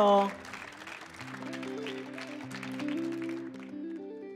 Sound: people clapping

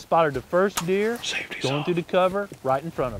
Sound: whispering

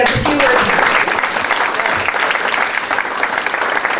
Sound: applause

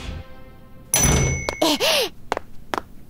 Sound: door opening; feet pattering

